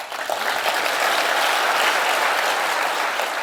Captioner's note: applause